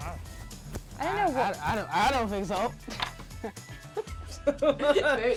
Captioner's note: laughs